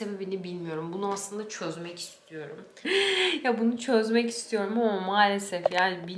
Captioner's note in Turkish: kahkaha